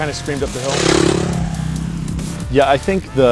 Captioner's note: bike revs